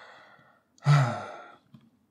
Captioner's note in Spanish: Suspiro